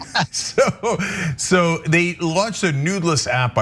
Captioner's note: laugh